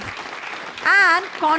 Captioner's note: audience applause